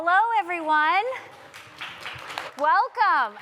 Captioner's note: applause